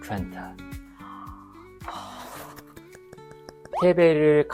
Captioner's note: gasp